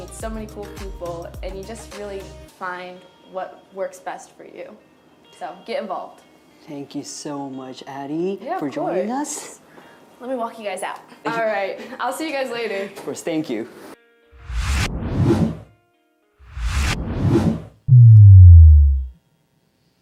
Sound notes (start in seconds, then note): 14.6 electronic wooshing; 17.8 electronic wooshing